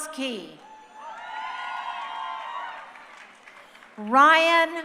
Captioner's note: crowd cheering